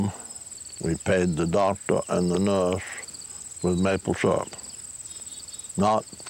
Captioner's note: none